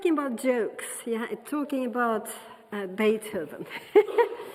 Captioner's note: laughing